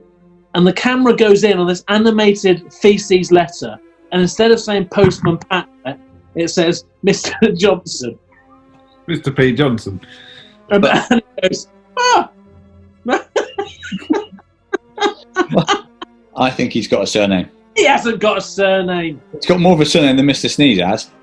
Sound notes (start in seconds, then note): 13.0 laughing